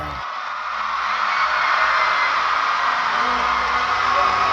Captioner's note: crowd cheering